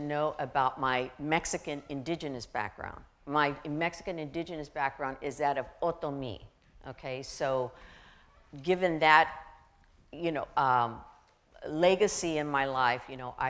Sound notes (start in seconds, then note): 5.3 foreign language